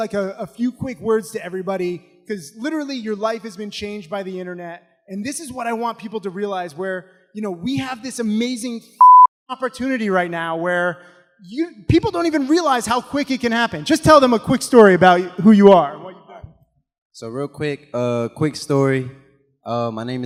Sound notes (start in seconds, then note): 9.0 beep